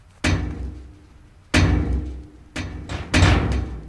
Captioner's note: barrel clanging